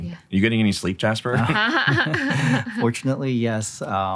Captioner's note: laughs